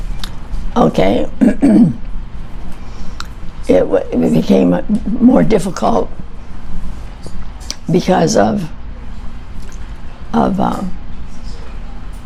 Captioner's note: clears throat